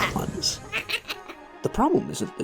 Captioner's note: little devil laughs